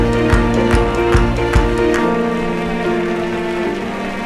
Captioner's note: applause